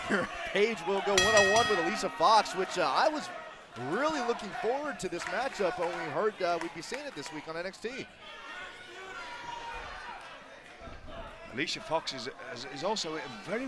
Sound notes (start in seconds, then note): 4.0 crowd cheering